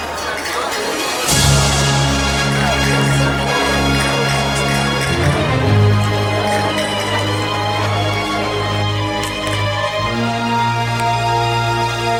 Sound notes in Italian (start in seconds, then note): 2.4 Applauso